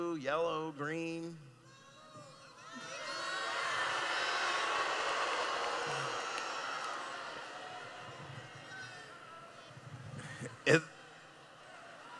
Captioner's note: crowd shouting